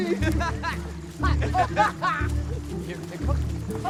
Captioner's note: Eddie and Howie laughing